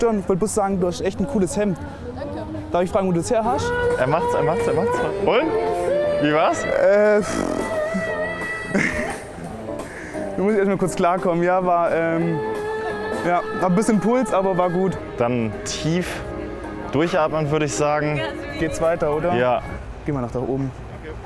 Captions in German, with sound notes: Ich wollt bloß sagen, du hast echt ein cooles Hemd. - Danke. Darf ich fragen, wo du's herhast? - Er macht's. Und? Wie war's? - Ähh, pfff ... (Lachen) (Die Sängerin singt weiter.) Ich muss erst mal kurz klarkommen. Ja, war, ähm, war ein bisschen Puls. Aber war gut. Dann tief durchatmen, würde ich sagen. Geht's weiter, oder? - Ja. Gehen wir nach da oben.